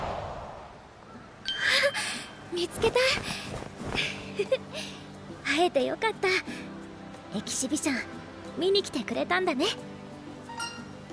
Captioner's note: laugh